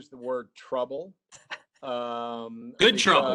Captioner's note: laughing